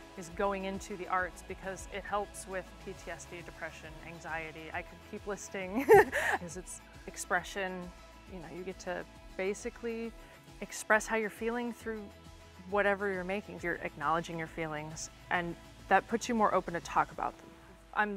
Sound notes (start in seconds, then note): 5.7 laughs